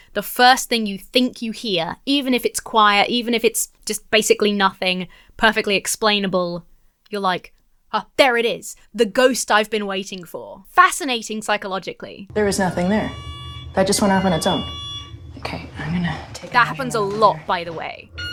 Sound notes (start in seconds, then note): 12.3 alarm continues going off; 18.1 alarm continues blaring